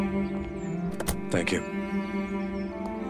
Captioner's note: Car door closing